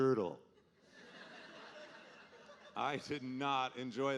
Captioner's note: audience laughing